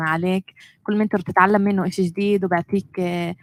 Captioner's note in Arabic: لغة أجنبية